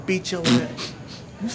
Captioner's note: passes gas